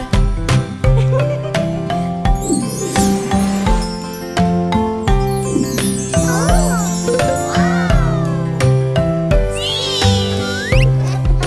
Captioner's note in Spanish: Risas; Música Alegre